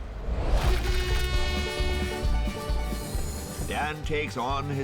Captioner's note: train horn blaring; upbeat bluegrass music